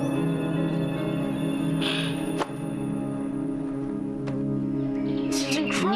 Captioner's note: sighs